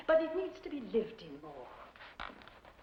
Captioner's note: none